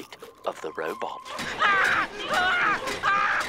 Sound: screaming

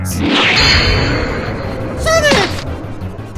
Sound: intense hit

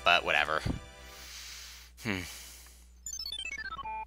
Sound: breathing

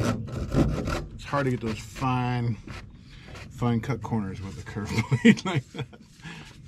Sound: chuckles to self

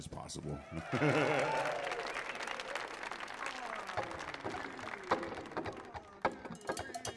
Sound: audience applauding; laughing; energetic music

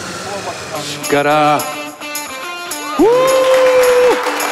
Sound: speaking Japanese

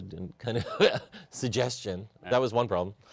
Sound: chuckle

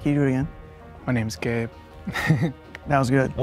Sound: laughs

